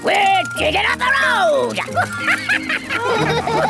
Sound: chuckles

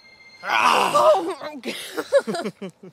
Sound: Jesse growls

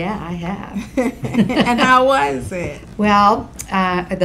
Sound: laughs

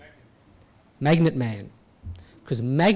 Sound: voiceover

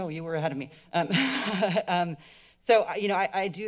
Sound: giggling

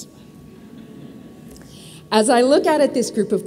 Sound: audience laughs

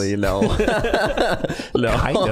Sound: all laughing

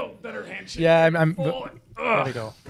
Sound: grunting

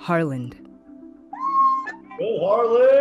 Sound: cheering

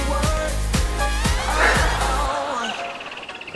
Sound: heavy breathing

